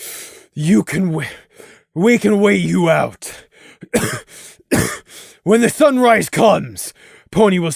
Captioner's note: gasp; cough